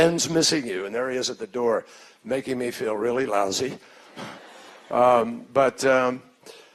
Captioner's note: laughter